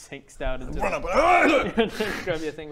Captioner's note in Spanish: arggh-hgh